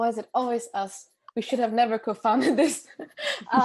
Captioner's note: laugh